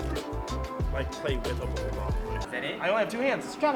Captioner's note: deep Voice